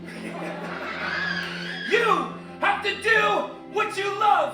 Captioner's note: laughter